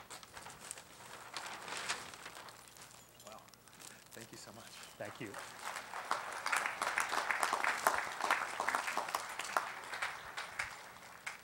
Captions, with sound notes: >> Thank you so much. Thank you. [Applause]